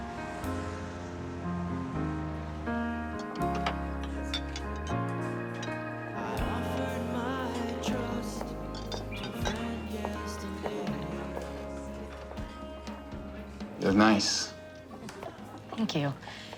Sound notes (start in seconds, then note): 3.1 people chatting